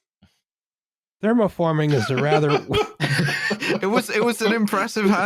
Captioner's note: laughter